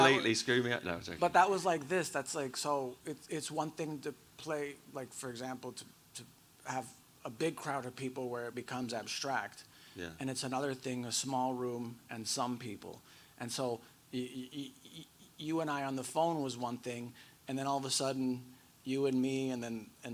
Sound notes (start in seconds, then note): 0.0 laughs